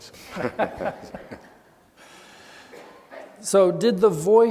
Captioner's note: laughing